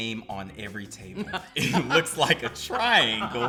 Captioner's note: laughs